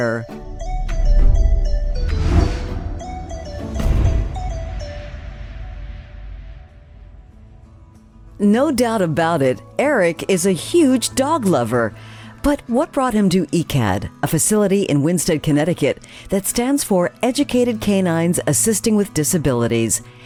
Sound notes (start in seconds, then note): 0.0 bright music; 1.0 logo whooshing; 3.6 heavy thud resonating